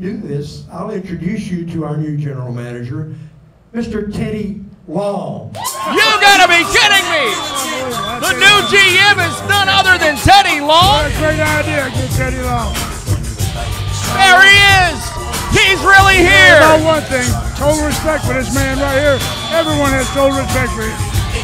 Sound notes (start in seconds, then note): 6.9 crowd cheering; 6.9 rap music